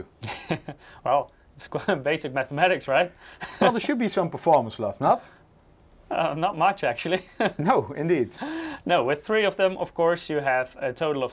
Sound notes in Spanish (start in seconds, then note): 0.4 risas; 7.1 risas